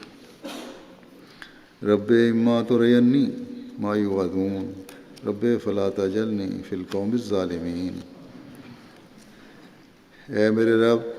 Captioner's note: Arabic